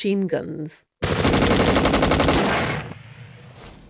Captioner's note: machine gun fire